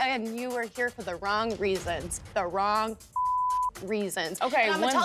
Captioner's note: beep